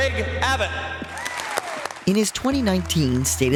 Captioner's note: audience cheers and applauds